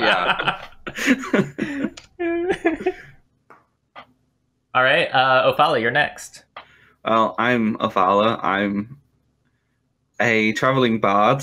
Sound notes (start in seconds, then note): 0.0 laughter